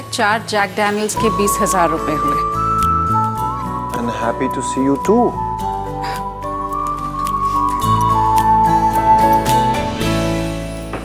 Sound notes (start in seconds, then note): 5.8 sighs